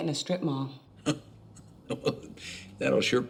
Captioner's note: laughs